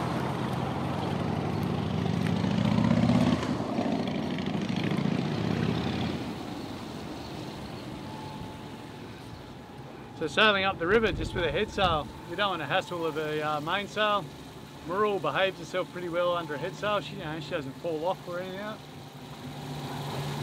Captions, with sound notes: (engine revving) - So we're sailing up the river just with a headsail. We don't wanna hassle with the main sail. Mirrool behaves herself pretty well under a headsail, you know, she doesn't pull of or anything like that.